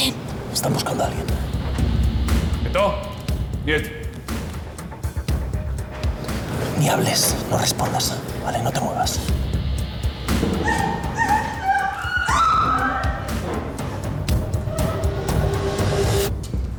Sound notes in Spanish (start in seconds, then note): 10.2 Gemidos; 10.6 Grito